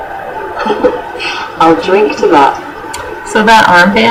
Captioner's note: laughs